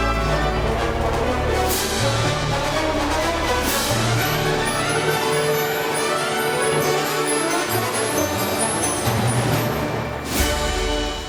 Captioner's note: applause and cheers